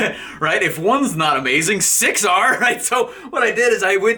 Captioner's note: laughing; laughing